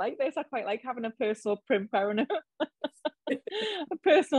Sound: laughs

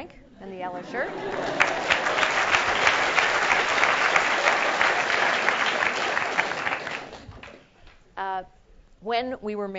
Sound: applause

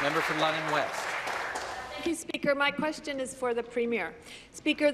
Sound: applause

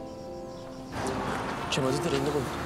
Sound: none

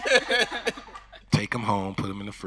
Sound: everyone laughing

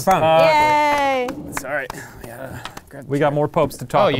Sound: cheering and applauding intermittently

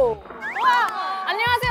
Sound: claps

